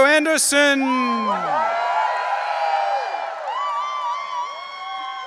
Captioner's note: audience cheering